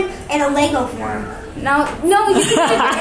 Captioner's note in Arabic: الأطفال يتمتمون; يضحك